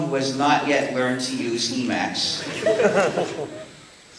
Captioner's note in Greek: Γέλια από το ακροατήριο